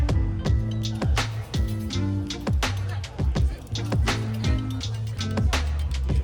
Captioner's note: laughs